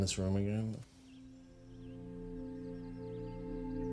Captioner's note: birds chirping